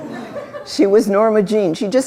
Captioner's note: laughter